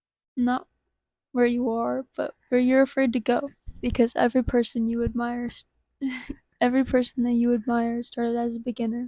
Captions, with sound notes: Not where you are but where you're afraid to go. Because every person who you admire- *giggles* Every person who you admire started out as a beginner.